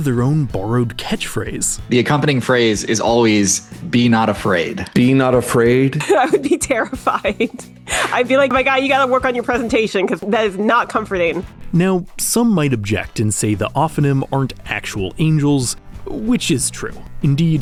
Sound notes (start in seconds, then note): 5.9 laughing